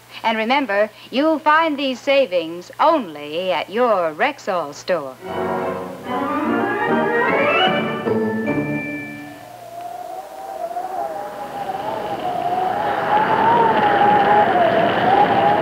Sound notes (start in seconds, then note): 5.2 cheery music; 8.8 wind howling